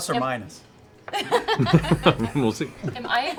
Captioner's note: laughs